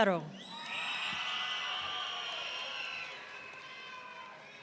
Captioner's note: audience cheering